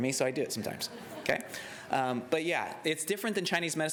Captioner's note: laughter